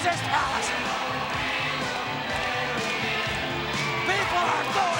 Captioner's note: crowd cheering